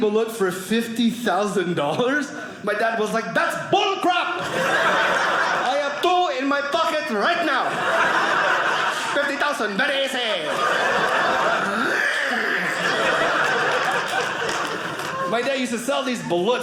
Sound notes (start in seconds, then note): 11.4 gagging; 12.9 audience laughing